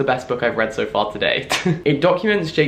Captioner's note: laughs